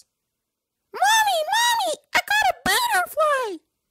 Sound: high pitch voice

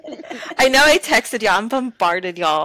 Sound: laughter

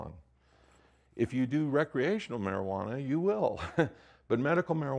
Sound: laughs

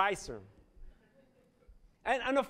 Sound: laughter

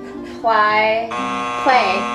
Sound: buzzer buzzing

